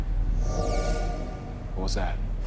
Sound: high-pitched whoosh

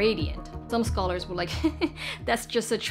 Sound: laughing nervously

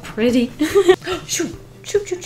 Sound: laughs

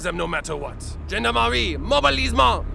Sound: speaking french

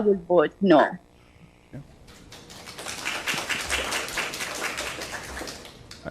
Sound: applause

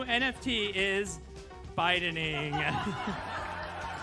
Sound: laughter

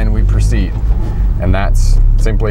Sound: car engine roaring

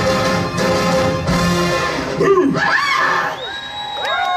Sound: the sisters scream in horror

